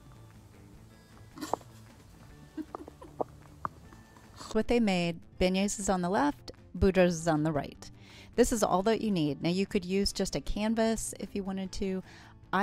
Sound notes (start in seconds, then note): 2.4 laughs